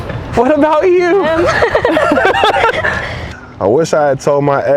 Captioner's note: both laughing